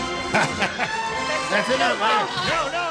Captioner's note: laughter